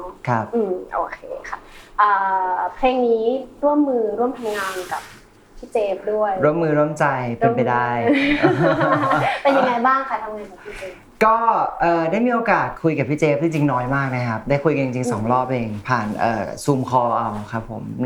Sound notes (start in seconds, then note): 8.0 laughs